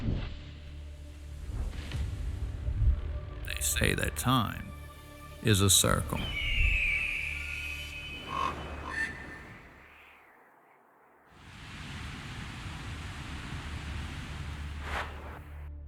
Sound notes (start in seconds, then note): 5.9 eagle screams; 7.0 raven caws